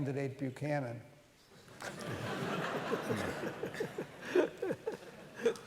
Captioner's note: laughter